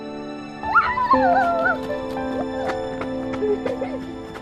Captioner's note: child shouts